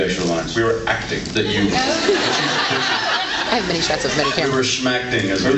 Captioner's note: laughs